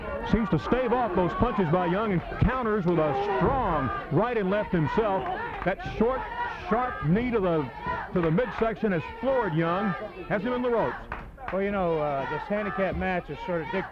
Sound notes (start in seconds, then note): 3.1 blows thudding; 3.1 wrestlers bellowing; 4.6 blows thudding; 4.9 crowd cheering